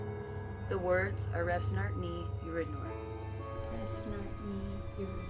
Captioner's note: speaking in foreign language